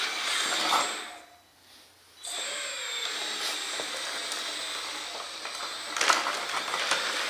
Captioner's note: metal clanks; motor whirs